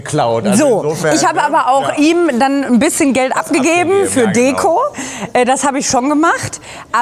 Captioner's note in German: gelächter